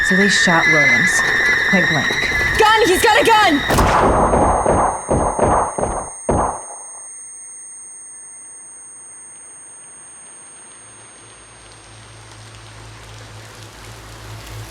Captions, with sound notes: So they shot Williams, point blank. - Gun, he's got a gun! (muffled gunshots)